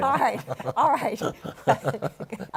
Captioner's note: laughter